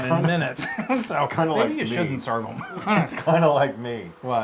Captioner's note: laugh